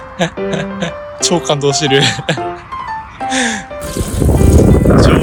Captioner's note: laughs